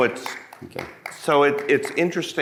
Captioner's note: person clapping